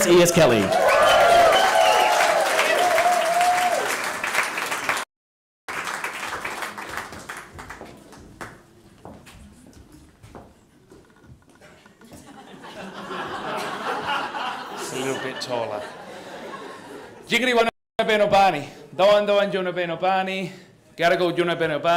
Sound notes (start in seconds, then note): 0.0 cheering and applause; 9.2 laughter; 19.2 speaks indigenous language